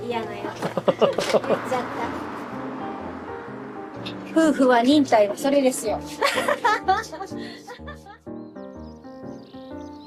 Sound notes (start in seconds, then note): 6.1 laughs